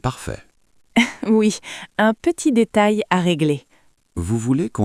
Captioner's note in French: rire